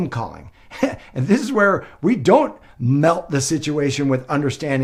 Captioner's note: laughs